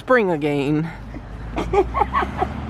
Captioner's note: laughter